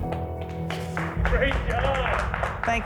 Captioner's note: applause